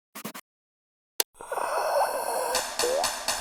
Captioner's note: fatigued groan